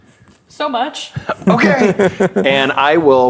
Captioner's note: laughing